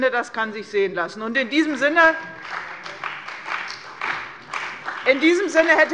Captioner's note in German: Beifall bei Abgeordneten der CDU